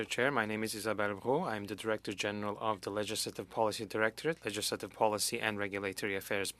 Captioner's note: speaking French